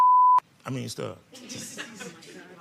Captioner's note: beep; laughing